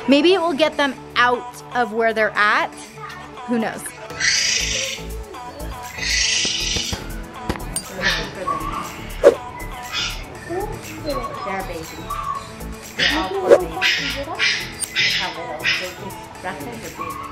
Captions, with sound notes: Maybe it will get them out of where they're at. Who knows? (screeching in background) (talking in background)